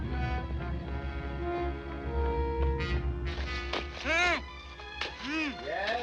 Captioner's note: muffled Shouting